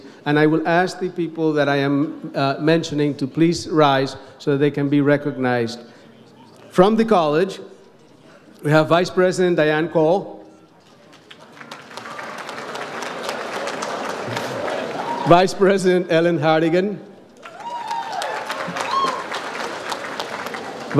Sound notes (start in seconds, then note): 11.0 audience applauds; 17.4 audience applauds